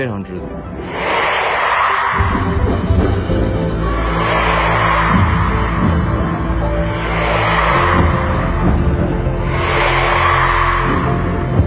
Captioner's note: fan chanting 'Yu Shi'